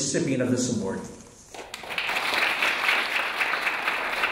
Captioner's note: clapping